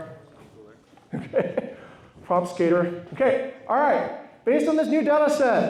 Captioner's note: laughs